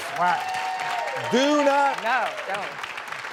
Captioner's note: audience clapping